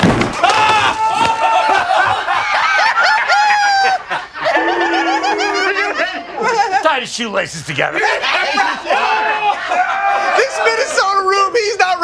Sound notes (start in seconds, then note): 1.3 laughter; 2.9 laughter, booing; 9.3 laughter